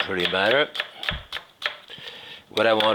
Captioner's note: knife tapping